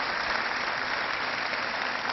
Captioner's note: cheering